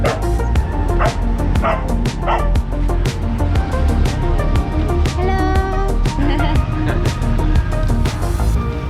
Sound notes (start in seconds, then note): 6.1 laughing